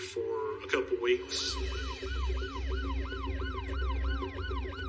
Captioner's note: siren blaring